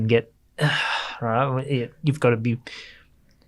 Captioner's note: sighs